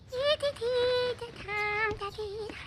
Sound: humming

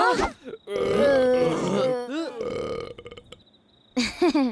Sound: burp sound

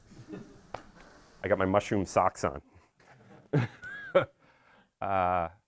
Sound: audience laughs; laughs

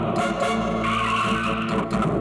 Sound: brakes squeal

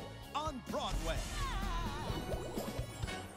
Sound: Spongebob laughs; upbeat music

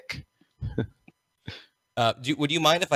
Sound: laughs

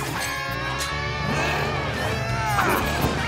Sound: grunting

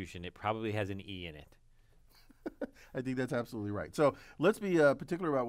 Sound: laugh

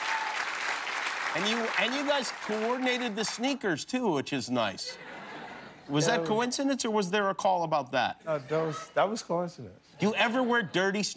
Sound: cheers and applause

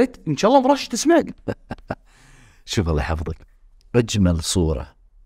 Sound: laughs

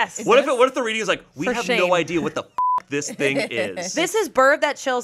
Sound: beep

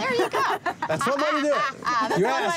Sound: laughing

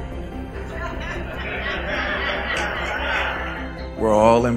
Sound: laughing

